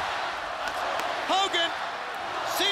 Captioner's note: crowd cheering